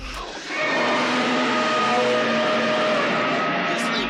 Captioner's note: roaring